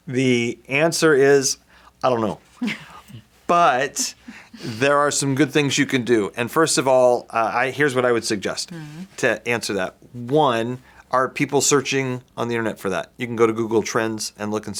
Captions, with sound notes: The answer is... I don't know. (laughs) But there are some good things you can do. And first of all, I- here's what I would suggest Mm. to answer that. One, are people searching on the internet for that? You can go to Google Trends and look